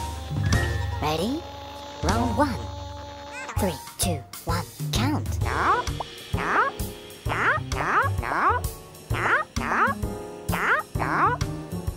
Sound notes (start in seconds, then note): 5.4 pigeon yells